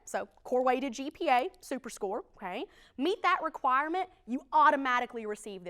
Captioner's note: none